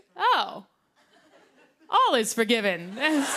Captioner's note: laughter; laughter and applause